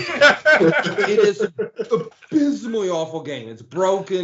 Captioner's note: laughing